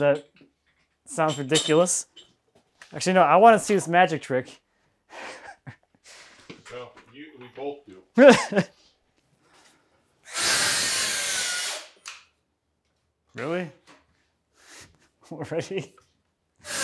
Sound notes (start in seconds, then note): 8.1 laughs; 10.2 saw buzzing